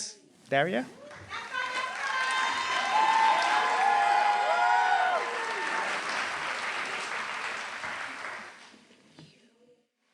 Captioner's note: applause